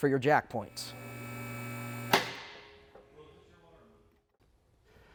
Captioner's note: lift motor whirring